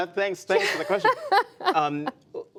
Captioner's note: laughter